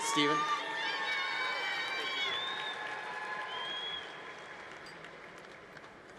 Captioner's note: congregation cheering